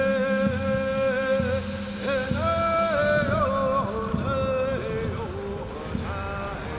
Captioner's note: chanting in Native language